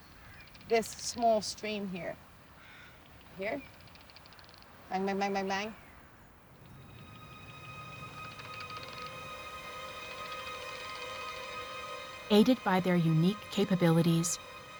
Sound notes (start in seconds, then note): 3.5 bird squawks, bats clicking; 8.3 bats clicking